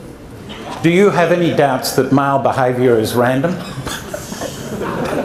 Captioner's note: laughter